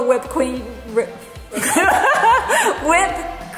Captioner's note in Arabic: يضحك الجميع